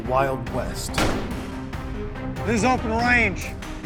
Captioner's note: warning gunshot